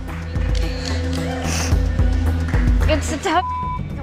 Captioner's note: beeps